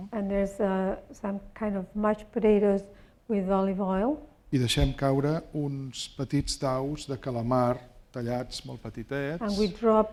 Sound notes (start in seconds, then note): 5.1 speaking spanish